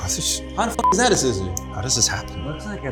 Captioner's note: beeps